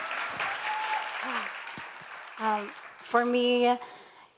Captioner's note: audience applause